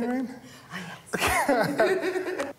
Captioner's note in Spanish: risas